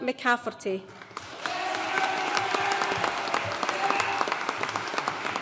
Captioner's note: audience cheering and applauding